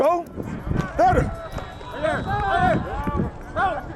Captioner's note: cheering